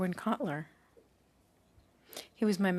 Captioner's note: speaking French